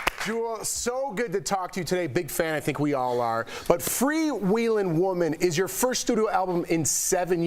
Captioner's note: applause